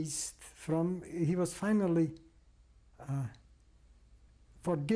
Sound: pauses for 3 seconds

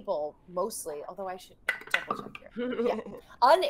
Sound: dice rolling

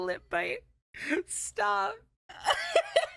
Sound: exasperated; laughter

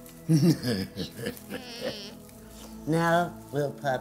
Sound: evil laugh

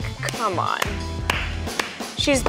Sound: jazzy music continues; clapping

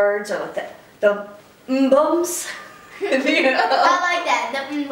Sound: laughter

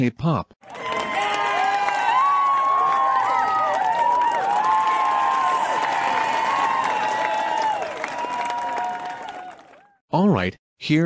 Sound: cheering

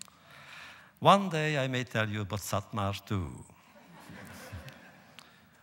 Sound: laughter

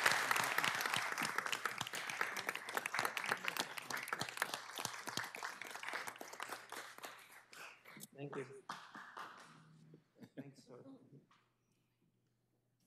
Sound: applause

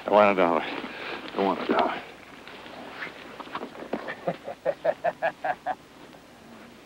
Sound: laughs

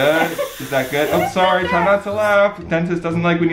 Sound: air hissing; laughing

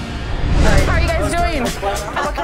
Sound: air whooshing

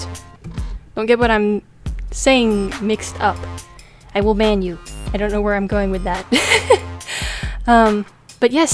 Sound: laughs

